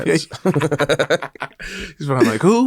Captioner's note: both laugh